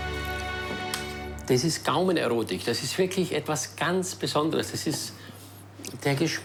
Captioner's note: speaking foreign language